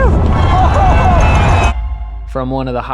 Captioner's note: crowd cheering